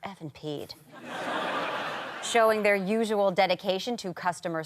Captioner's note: audience laughter